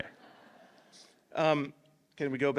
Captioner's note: laughter